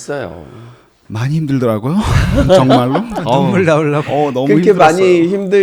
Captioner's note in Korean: 웃음